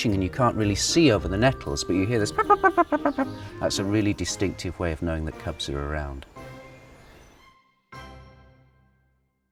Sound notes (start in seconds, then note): 2.3 badger noise